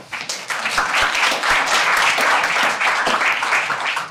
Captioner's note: audience applauding